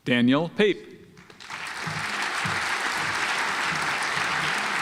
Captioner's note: audience applauds